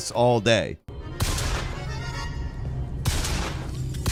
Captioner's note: gunshots